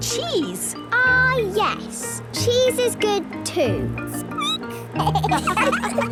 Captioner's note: squeaking; laughter